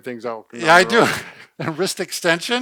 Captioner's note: chuckles